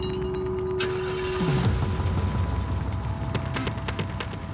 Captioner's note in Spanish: ruido al encender el vehículo